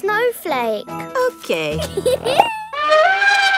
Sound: giggles; trumpets

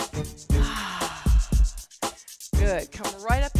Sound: heavy sigh

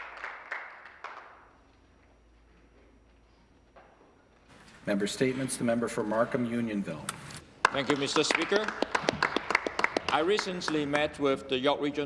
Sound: some Applause

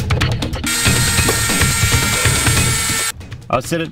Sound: filing sounds; rotary tool whining

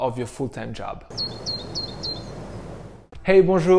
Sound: bird chirping

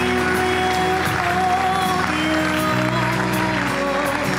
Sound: applause and music continues

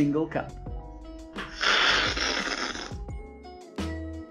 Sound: slurping

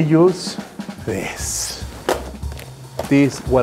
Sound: box thumps

